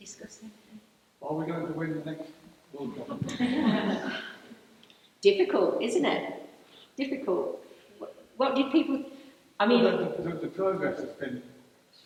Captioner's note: laughter